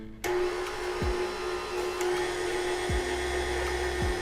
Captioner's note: blender whizzing